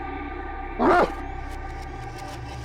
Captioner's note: dog barks